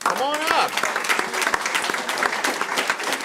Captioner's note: applause